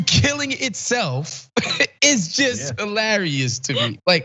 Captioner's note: laugh